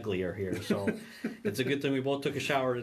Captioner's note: laughing